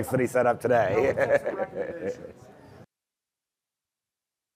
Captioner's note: laughter and chatter